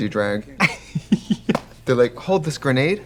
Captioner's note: Katya giggles